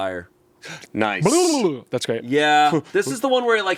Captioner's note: makes silly sound